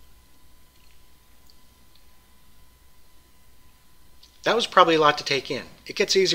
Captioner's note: pause